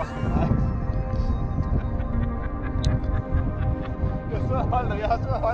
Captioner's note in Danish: All laughing